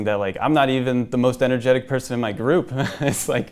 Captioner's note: laughs